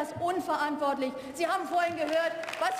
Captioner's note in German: Beifall